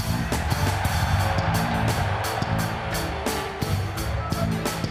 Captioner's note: audience cheering